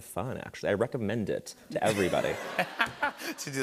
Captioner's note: laughter